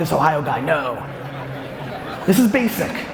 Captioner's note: audience laughs